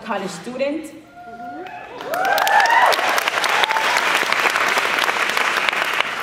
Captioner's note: applause